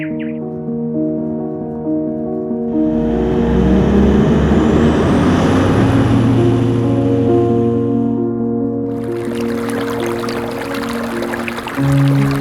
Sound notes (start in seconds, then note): 0.1 gentle piano music; 2.7 truck accelerating; 8.9 water trickling